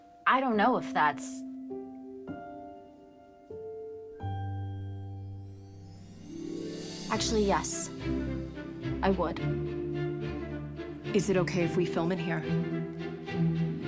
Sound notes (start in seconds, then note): none